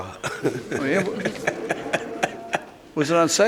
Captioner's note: laughs